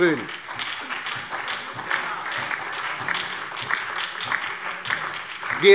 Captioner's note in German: Beifall SPD und DIE LINKE